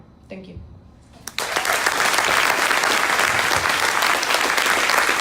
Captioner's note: crowd applauding